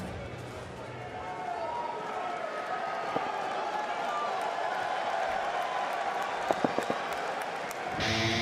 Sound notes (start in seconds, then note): 1.8 crowd cheering